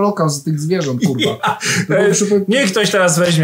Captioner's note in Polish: śmiech